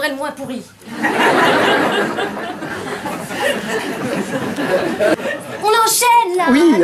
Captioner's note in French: rires